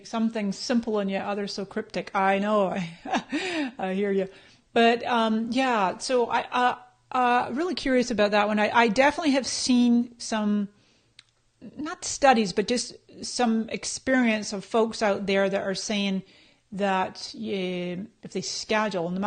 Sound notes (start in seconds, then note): 2.8 laughs